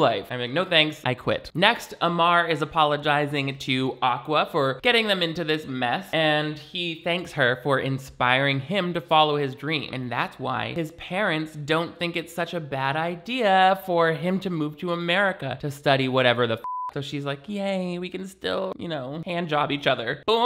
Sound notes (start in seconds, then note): 16.6 beep